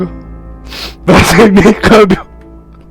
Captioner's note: sniff